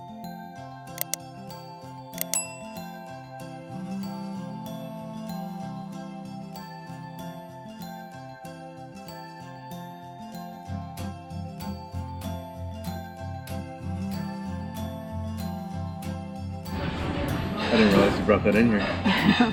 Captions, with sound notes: (mouse clicks) (bell dings) Just dropping in here.